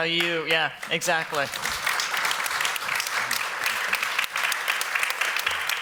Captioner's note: applause